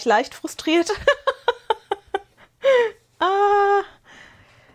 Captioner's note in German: Gelächter